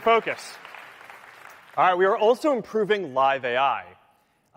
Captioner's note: applause; cheering